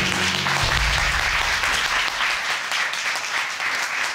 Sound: applause

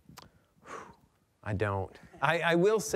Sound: forceful exhale

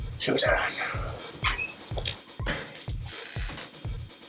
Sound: door creak

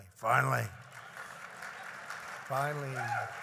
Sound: applause

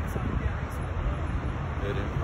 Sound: cars passing in the road

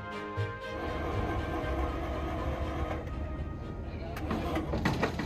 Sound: ramp whirring

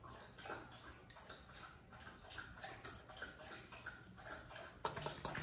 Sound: dog lapping water

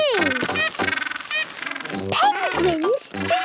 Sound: honking

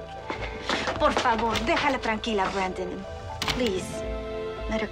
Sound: Anna speaking Spanish; door clicks

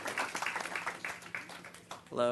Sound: applause

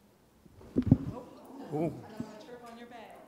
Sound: thunks

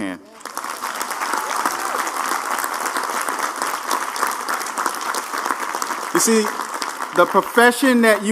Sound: applause

